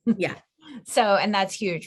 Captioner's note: laughing